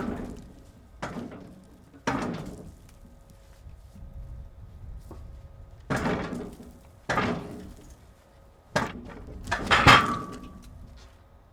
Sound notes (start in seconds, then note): 5.8 metal clanking